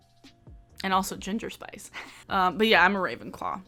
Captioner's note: chuckles